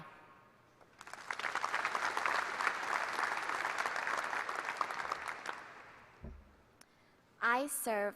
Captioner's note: applause